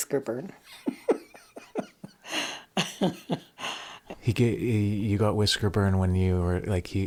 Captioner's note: laughs